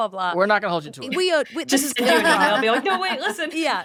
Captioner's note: laughing